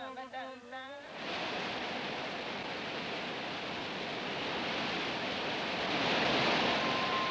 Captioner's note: water rushing